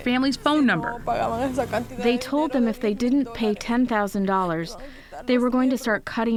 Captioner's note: through translator